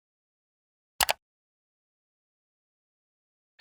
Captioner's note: mouse Clicks